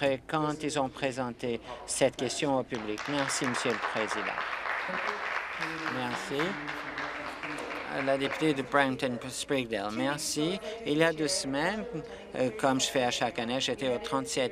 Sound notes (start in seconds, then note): 9.3 applause